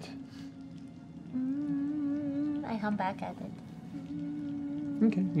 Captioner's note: hums